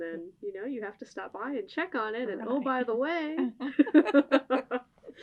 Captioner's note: laughter